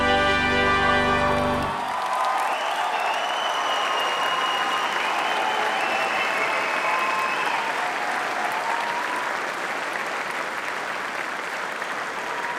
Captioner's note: applause